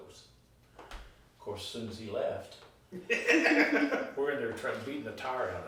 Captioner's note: laughing